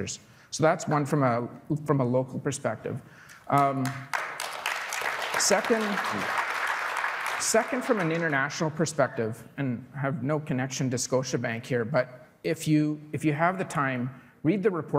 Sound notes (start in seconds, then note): 7.7 applause